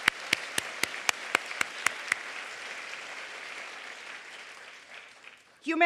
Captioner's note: applause